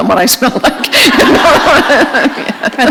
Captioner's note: laughter